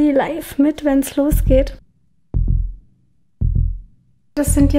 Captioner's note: heartbeats